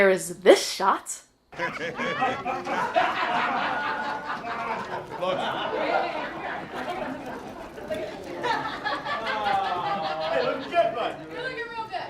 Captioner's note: people laughing